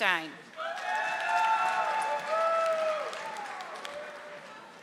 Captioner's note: audience applauding